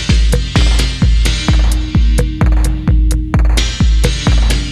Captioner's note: timer countdown